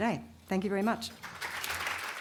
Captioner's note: audience Applause